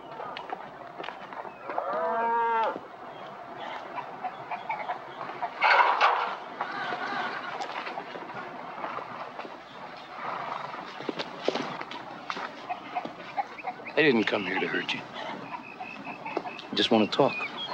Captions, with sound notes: (cows mooing) (chickens clucking) I didn't come here to hurt you. I just want to talk.